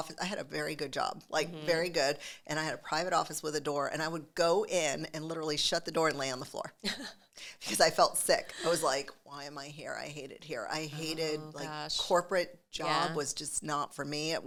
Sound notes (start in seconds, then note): 8.3 laughs